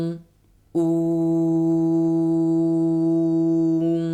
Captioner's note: oooooooooo